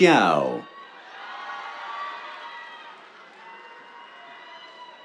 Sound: cheers, applause

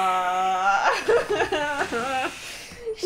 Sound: laughter

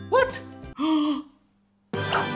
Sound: gasps; triumphant music

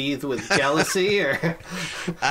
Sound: laughs

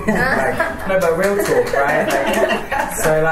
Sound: laughter and applause

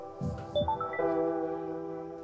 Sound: notification

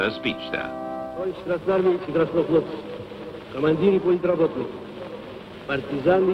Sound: speaking in foreign language

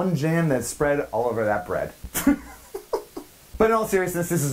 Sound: laughs

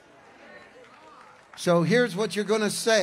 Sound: congregation applauds

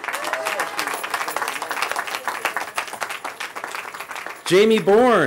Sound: cheering

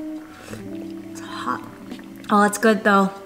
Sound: slurping

